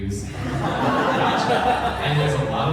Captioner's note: laughter